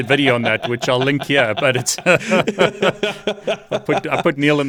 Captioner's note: laughs